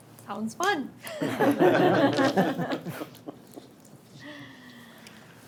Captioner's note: board members laughing